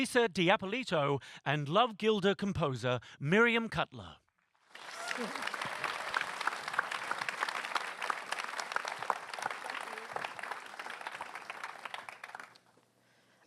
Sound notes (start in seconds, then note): 4.6 applause